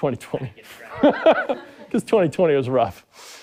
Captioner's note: laughing